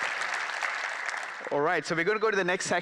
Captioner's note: applause